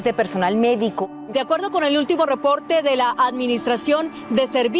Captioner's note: speaking Spanish